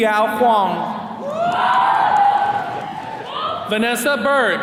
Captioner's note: attendees cheering